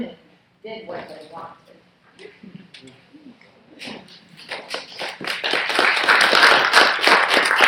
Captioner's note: laughing; clapping